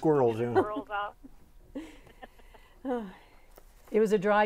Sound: laughing

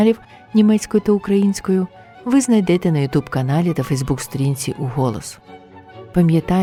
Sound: German and Ukrainian

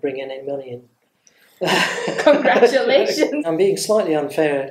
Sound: laughs

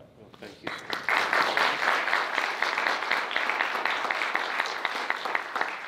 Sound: audience applauds

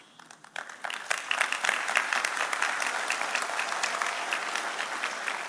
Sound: audience applauding

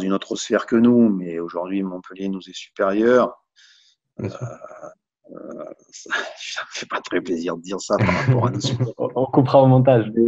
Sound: laughs

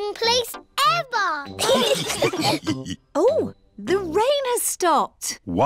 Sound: laughter

